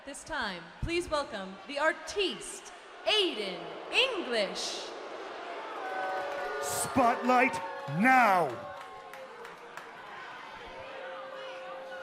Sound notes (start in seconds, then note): 4.4 crowd cheering